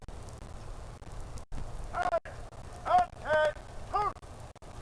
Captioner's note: shouted commands